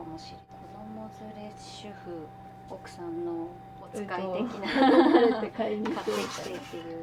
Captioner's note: laughter